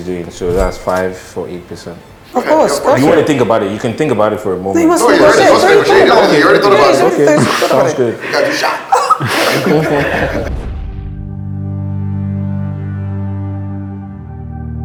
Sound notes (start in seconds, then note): 9.0 laughs